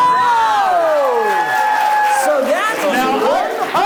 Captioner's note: audience applauds